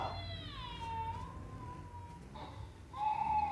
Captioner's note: baby crying